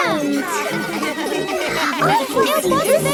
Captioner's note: children laughing